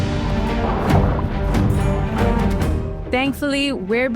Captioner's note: water gurgling